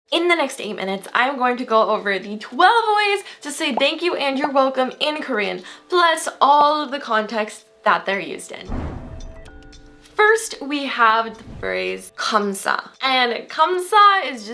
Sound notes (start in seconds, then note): 8.7 whooshing; 12.3 foreign language